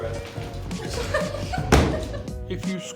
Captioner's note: crew member laughing